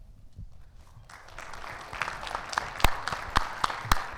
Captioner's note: audience claps